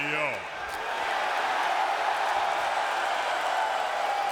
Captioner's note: crowd cheers